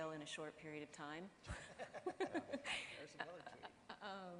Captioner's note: laughing